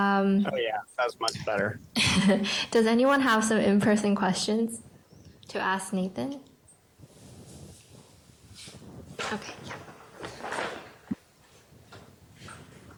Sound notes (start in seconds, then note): 1.9 chuckling